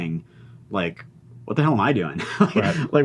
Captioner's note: laughs